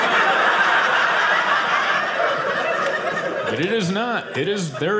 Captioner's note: audience laughing